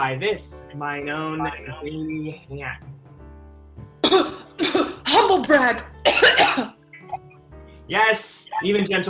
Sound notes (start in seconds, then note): 6.0 faking coughing